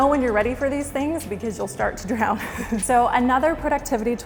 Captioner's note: chuckles